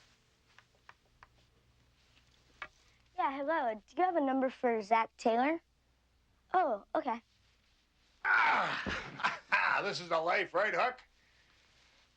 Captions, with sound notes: - Yeah, hello, do you have a number for Zach Taylor? Oh, okay. - (groans) This is the life, right Huck?